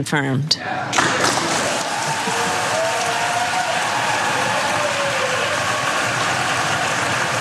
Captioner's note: applause